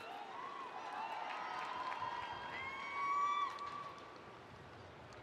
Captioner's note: spectators cheering